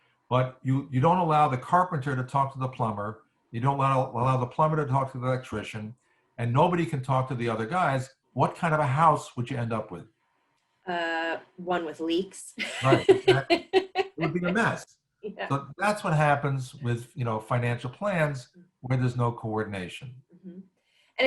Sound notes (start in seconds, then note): 12.6 laughs